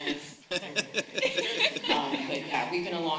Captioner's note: all laughing